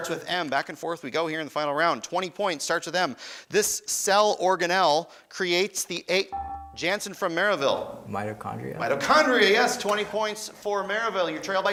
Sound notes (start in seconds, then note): 6.3 beeping